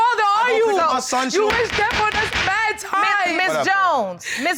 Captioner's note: gavel banging